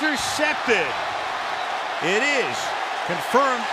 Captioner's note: cheering